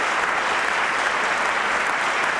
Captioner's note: applause